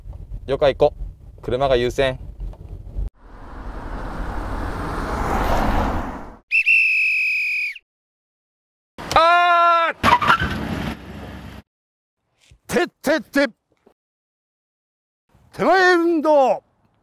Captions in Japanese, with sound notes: いいや、行こう。車が優先。 （笛の音） ああーーー！！！ （急ブレーキの音） て・て・て てまえ運動！